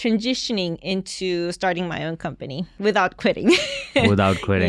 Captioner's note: chuckles